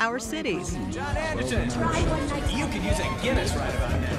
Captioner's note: background chatter